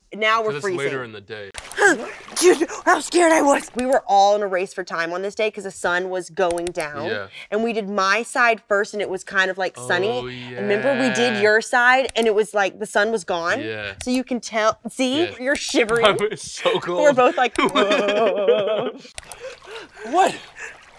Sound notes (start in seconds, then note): 18.6 Justice laughing